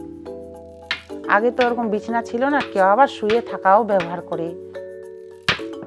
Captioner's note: speaking foreign language